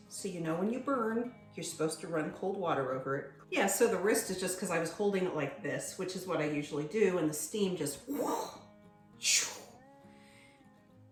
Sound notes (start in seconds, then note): 8.0 swooshing sound